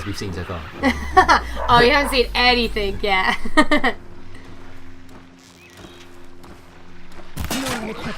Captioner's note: laughter